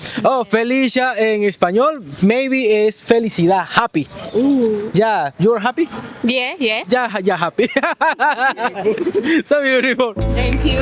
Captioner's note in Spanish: risas